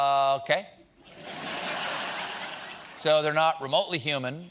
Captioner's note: laughter